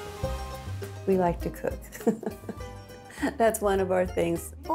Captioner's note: laughter